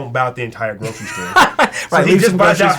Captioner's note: laughs